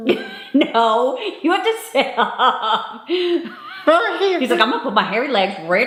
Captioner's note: laughing